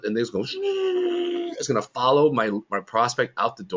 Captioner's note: makes airplane noise